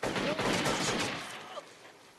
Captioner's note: gunshots